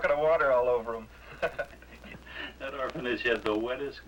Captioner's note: both laugh